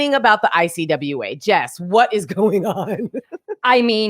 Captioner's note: chuckles